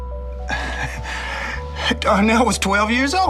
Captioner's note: laughs